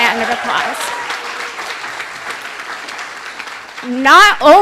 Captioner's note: applause